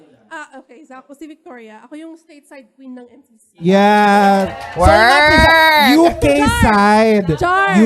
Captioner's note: applause